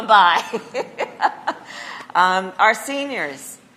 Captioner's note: laughs